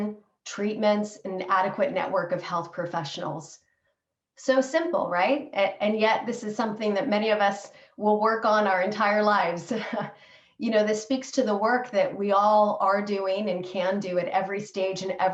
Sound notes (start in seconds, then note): 9.7 laughter